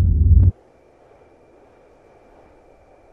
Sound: crickets chirping

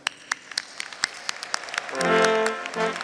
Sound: audience, and graduates applauding; royal instrumental music

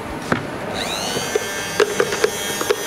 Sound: soft whirring

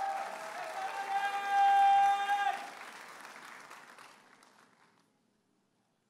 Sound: audience applauding and cheering

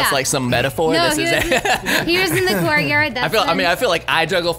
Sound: laughs

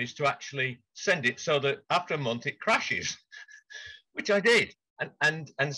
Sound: laughs

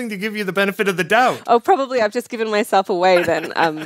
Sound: laughs

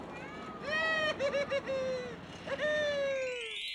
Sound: laughing

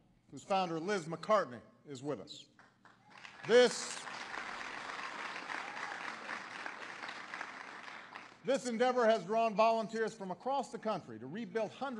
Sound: applause

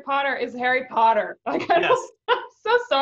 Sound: laughing

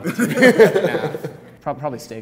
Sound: laughs

